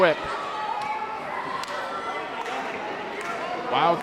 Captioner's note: hands clapping; crowd clapping